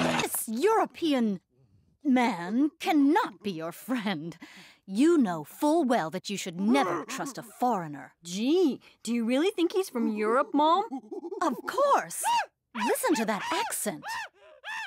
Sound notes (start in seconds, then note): 6.7 monkey noises start; 10.0 monkey noises get louder; 13.1 monkey noises are very loud